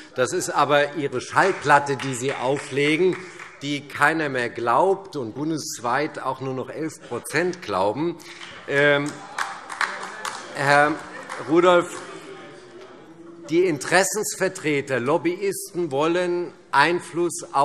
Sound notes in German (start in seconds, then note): 8.2 Vereinzelter Beifall AfD